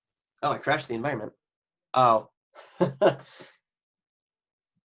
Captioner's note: laughs